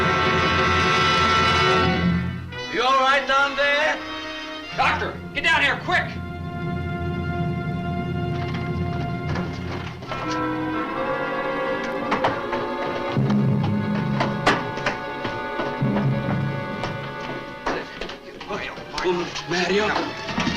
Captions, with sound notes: - You all right down there? - Doctor! Get down here, quick! (suspenseful orchestral music) (door closes) Mario, Mario. - Mario?